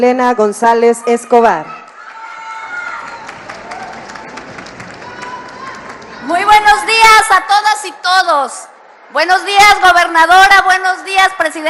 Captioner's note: applause